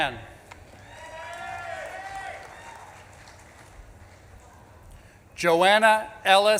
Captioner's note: audience claps and cheers